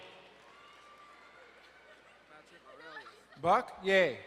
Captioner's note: distant cheering